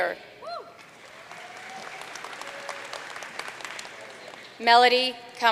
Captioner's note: audience cheering and applauding